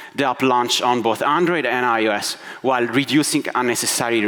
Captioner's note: none